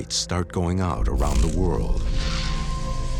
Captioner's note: buzzing